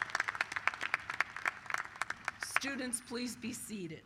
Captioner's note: applause